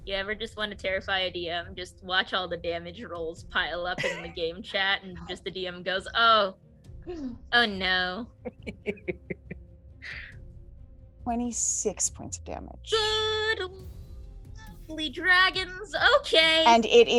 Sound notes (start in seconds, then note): 8.4 laughter